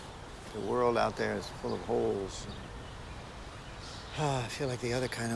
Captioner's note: sighs